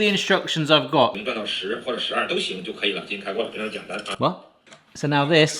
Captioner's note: man speaking foreign language